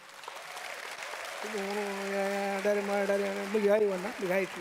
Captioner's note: sings in native language; audience applauds